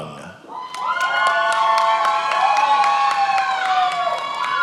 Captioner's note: attendees applauding